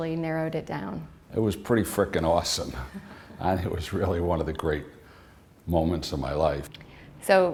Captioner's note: chuckle